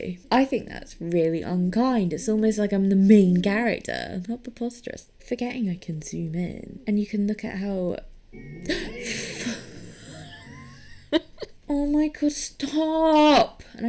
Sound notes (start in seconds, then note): 8.4 laughs; 8.6 gasps